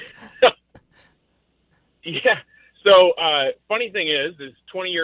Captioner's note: laughs